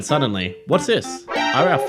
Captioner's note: alert sound effect